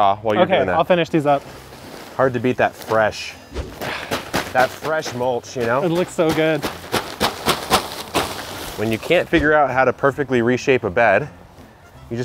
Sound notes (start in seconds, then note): 3.4 bag rustles; 6.9 bag continues rustling